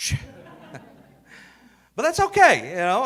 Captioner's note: audience laughing